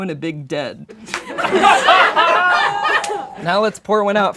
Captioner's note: laughing